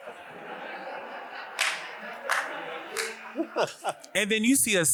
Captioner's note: audience laughs